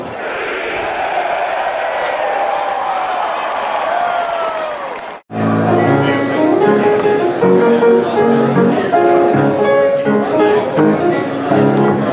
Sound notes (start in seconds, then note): 0.0 crowd cheering wildly; 4.6 crowd chatter overlapping